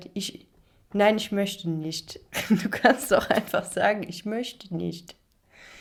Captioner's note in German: gelächter